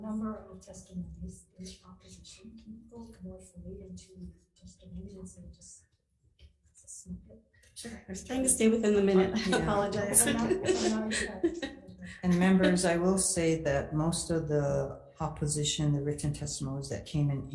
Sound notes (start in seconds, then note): 9.9 laughs